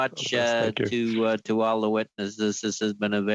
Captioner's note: laughter